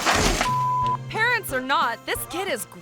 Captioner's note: beep